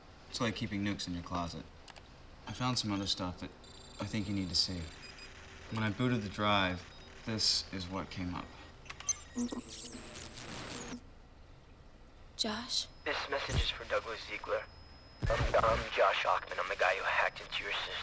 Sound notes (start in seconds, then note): 9.4 static crackling